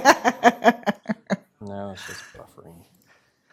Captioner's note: laughter